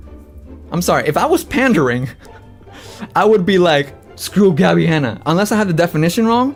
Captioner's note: laughs